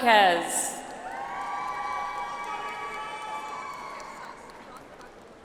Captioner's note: audience applauds